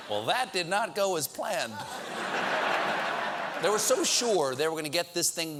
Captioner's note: laughter